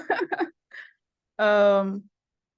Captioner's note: laughs